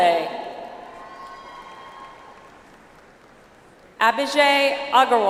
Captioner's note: audience applauds